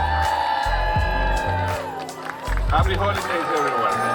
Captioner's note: crowd counting down; crowd cheering